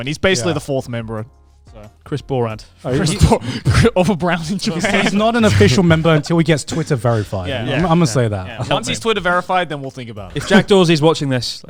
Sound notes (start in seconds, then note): 2.9 laughing quickly